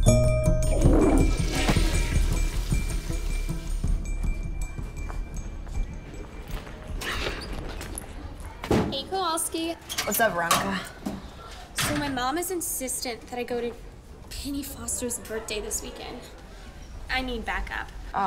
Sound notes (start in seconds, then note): 1.0 toilet flushes